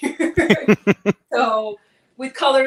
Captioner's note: laughs